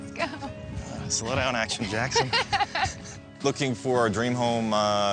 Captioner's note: laughs